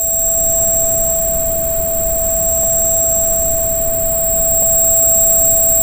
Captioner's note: high-pitched hum is added to "ringing" sound